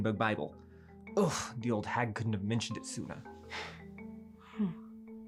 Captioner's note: sighs